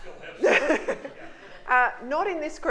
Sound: laughing

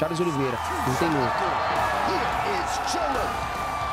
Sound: crowd cheering

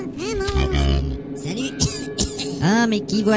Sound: cough cough

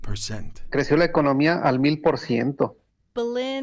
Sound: speaking Spanish

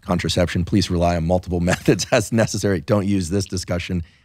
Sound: laughing

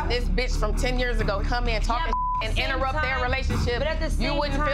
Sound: beep

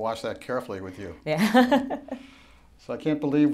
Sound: laughing

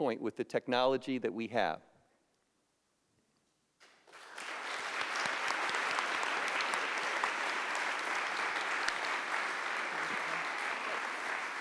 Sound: applause

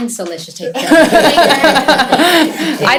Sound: laughter

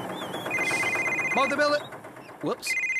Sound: cell Phone Ringing

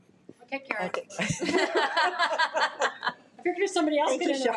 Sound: all laughing

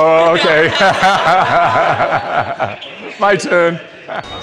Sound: guide laughs

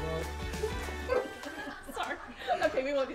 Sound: laughing

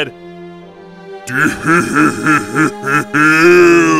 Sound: laughs

